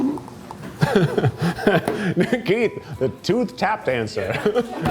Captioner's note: teeth chattering; chuckles